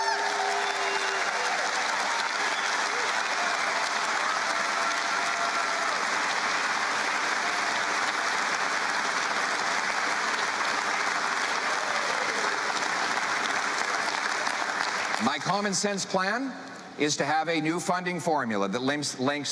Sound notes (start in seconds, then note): 4.8 cheering